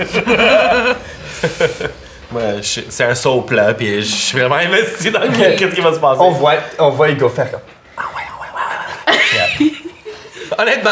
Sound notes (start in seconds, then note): 0.0 laughter; 7.9 whispers; 9.0 Zara giggles